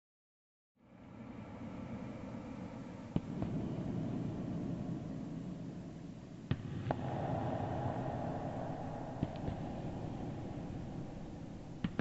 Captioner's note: echoing heavy thuds rings as footsteps sound off